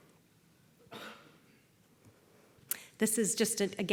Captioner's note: cough